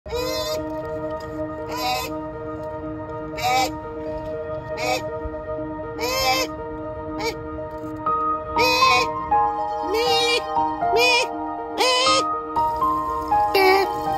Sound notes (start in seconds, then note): 0.1 squawking; 1.3 gentle music; 3.3 squawking; 10.8 squawking; 12.7 water running